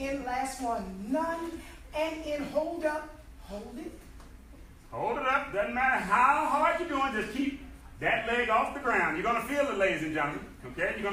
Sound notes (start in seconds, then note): none